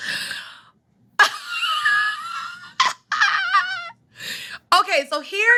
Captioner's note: laughs